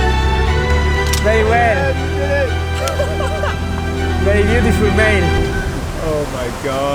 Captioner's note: bright music continues; team members shouting and laughing